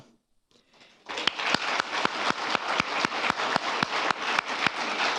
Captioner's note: applause